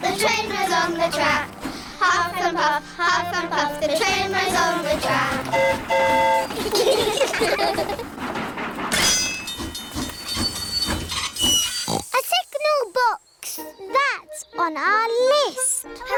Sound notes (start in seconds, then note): 5.2 train horn toots; 6.4 all giggle; 9.7 tinging; 11.7 oinks